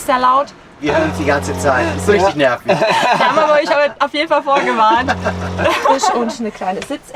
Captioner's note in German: Lachen